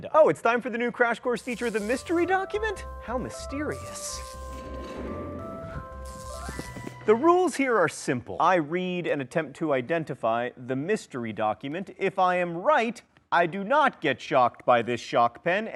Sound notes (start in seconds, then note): 4.3 light organ music; 6.2 electricity buzzing